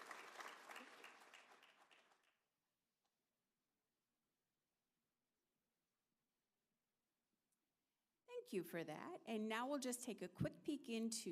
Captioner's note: applause